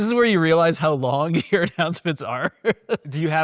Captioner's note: laughs